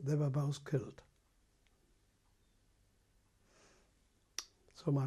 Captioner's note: pauses for 3 seconds